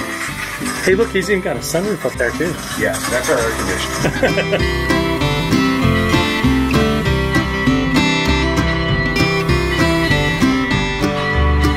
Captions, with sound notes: Hey look, he's even got a sun roof up there too. - Yes, that's our air conditioning. (laughing) (cheerful bluegrass music) (bell clanging)